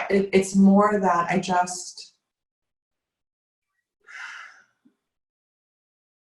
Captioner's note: sighing